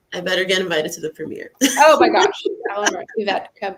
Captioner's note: laughs